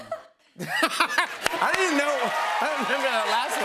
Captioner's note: laughs